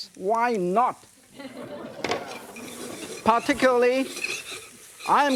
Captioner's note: audience laughing